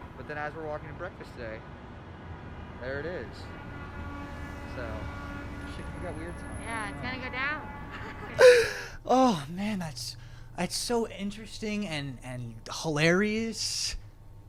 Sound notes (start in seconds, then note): 8.4 gasps